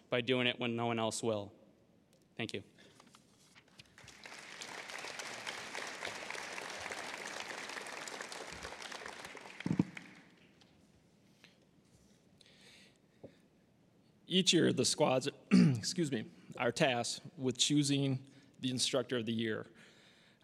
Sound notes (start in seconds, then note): 3.9 applause; 15.5 clearing throat